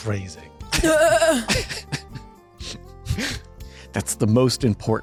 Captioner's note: laughs